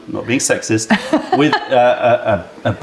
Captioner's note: laughter